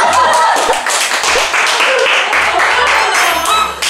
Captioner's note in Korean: 박수갈채